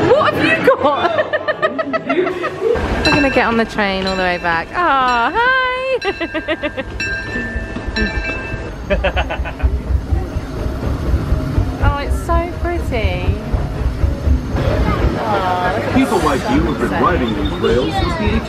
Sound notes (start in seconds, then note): 0.6 laughing; 5.9 laughing; 7.7 warning bells dinging; 8.8 laughing